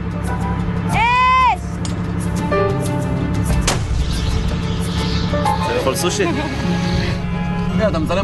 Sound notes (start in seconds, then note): 3.6 explosion